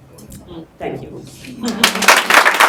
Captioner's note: applause